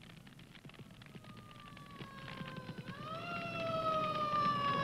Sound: siren blaring

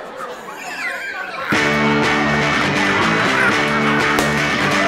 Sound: laughing

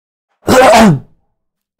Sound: throat clear

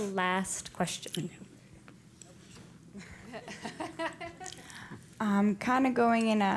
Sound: laugh

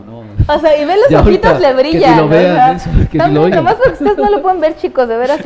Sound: laughs

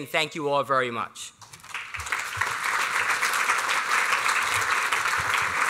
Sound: applause

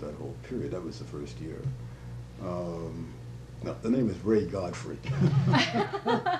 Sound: laughter

